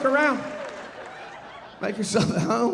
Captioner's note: audience laughing